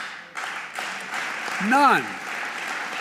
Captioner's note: applause